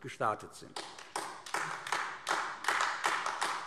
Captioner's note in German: Beifall AfD